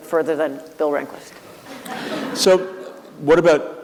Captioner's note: laughter